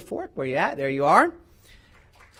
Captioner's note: applause